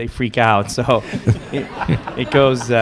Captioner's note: laughter